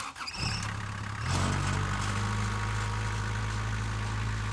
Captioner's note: trench engine running